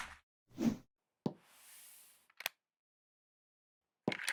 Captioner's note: audience applauding; air whooshing